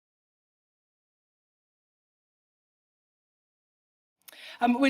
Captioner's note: silence